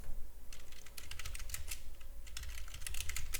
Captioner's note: typing